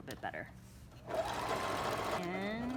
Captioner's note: sewing machine hums